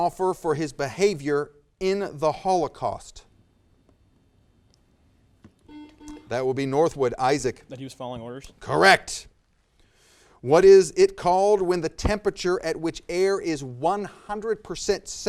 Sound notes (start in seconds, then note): 5.6 buzzer